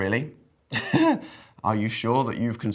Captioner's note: chuckles